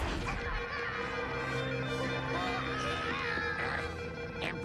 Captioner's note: alarm beeping